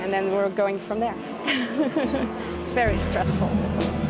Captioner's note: laughs